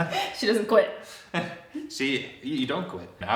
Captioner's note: chuckles